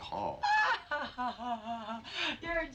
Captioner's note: Ellyn laughs